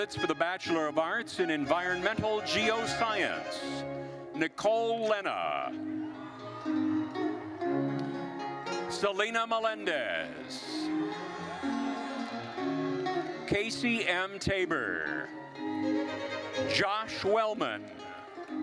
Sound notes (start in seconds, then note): 6.0 lively classical music continues; 10.8 attendees cheering; 15.5 lively classical music continues